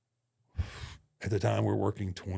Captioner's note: Undertaker sighs